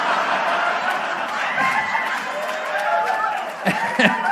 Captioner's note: audience laughter